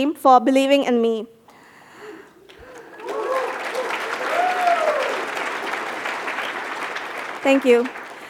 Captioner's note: cheers and applause